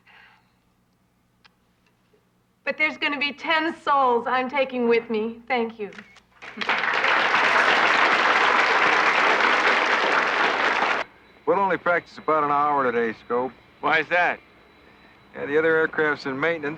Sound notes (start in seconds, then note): 6.4 audience applauding